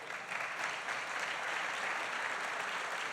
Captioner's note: applause